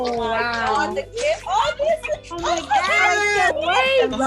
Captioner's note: chattering excitedly